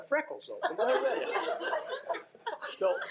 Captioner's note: attendees laughing; speaks faintly